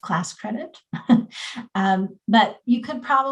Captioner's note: chuckles